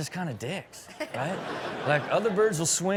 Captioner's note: audience laughs